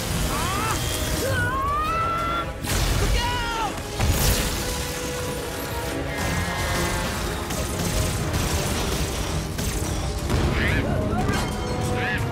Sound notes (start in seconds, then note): 0.1 yelling; 10.5 exclaiming